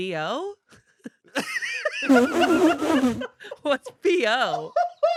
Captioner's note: everyone laughs